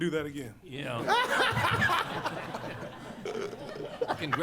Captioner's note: laughter